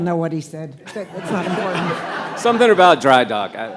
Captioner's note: attendees laughing